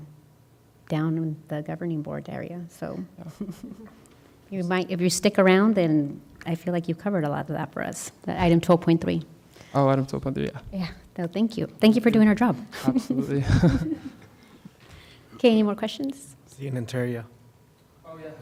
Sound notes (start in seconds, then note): 12.7 laughter